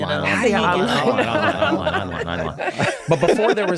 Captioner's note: laughing